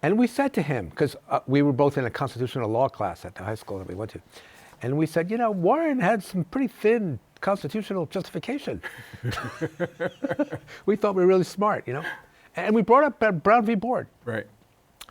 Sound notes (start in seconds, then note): 8.8 both laughing